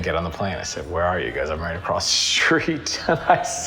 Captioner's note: chuckles